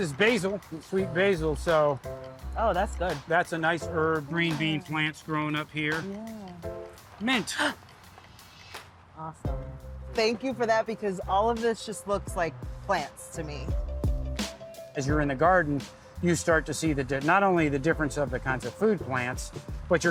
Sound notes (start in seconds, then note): 8.2 enthusiastic gasping